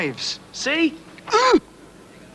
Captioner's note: grunts in pain